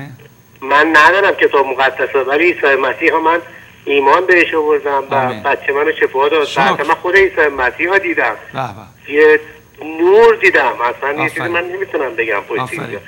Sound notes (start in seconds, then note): 0.0 speaking in foreign language